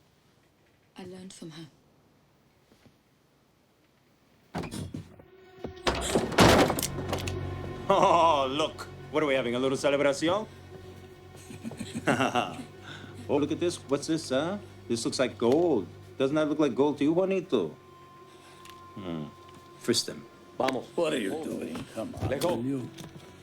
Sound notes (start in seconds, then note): 4.6 thump; 11.2 laughs